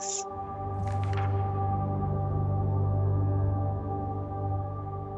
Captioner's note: pages flipping